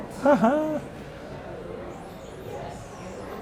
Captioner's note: laughs